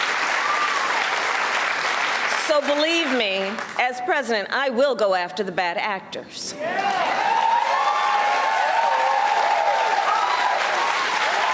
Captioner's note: cheers and applause